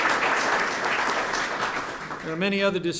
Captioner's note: applause